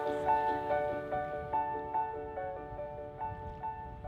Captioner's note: students laugh softly; air whooshing softly; mellow piano music fades